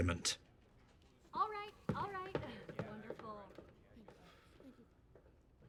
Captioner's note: chuckles